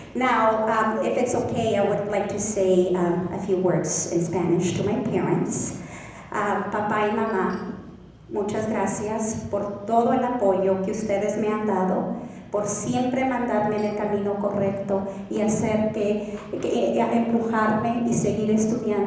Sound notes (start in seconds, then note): 7.1 speaking Spanish